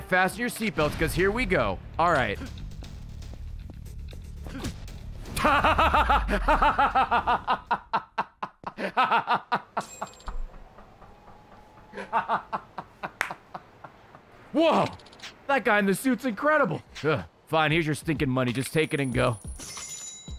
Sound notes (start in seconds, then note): 5.3 laughs